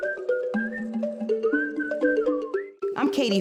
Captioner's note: whistling continues